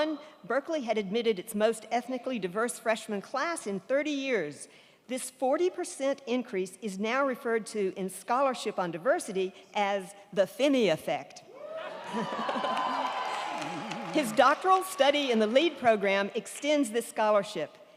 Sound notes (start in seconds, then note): 11.5 crowd cheering; 11.9 crowd clapping